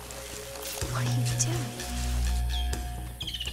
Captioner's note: Whispers